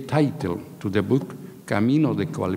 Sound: speaking in a foreign language

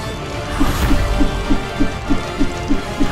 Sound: rope whirring

